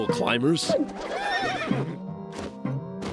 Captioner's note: whinnies